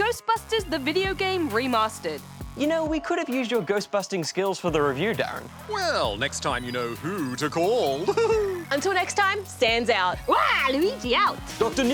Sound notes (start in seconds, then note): 7.9 laughs